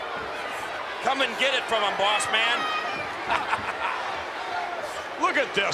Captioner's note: laugh